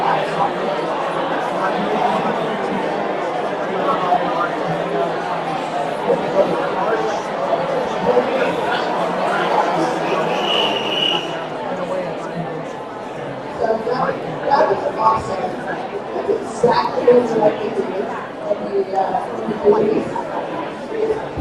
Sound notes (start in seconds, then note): 10.2 whistling